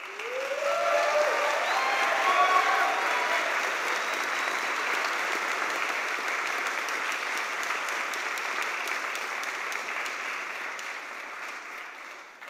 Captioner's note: cheers and applause